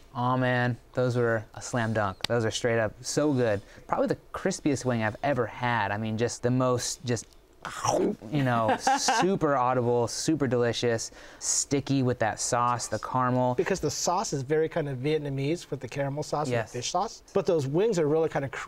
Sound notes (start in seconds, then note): 7.0 chomp sound; 8.6 laughter